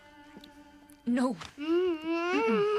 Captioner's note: moans